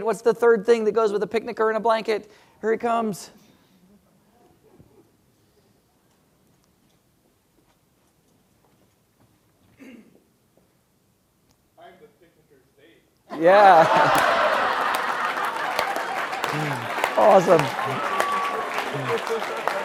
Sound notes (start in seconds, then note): 13.6 applause